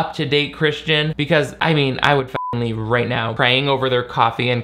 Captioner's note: beep